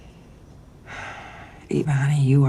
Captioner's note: sighs